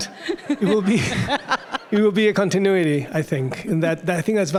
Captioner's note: everyone laughing